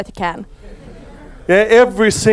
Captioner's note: audience laughs